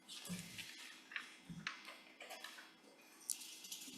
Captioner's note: papers shuffling